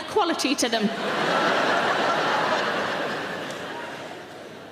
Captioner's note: laughing